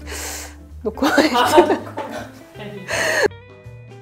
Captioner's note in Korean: 웃음